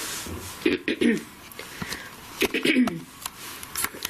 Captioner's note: throat clearing